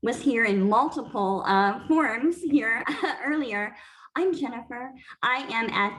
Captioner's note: laughter